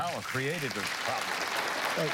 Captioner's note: applause